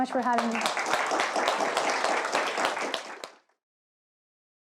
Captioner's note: applause